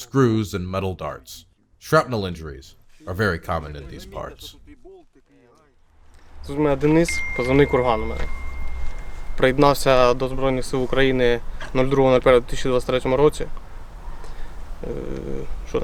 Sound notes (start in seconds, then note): 8.8 tornado